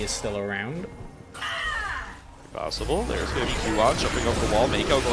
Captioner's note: screaming and groaning